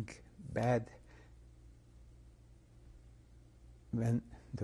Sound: pauses for 3 seconds

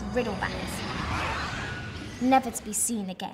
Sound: creature screeching

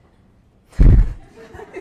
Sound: holds back laughter; audience laughs

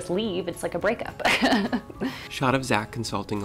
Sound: laughs

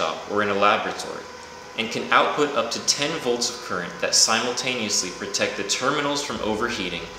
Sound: amps

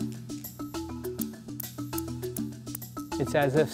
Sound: balls clinking

